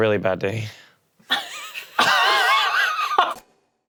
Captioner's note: laughing